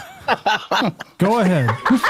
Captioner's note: laughing